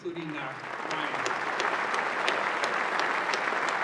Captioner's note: applause